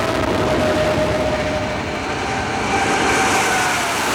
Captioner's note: engines roar; jets whine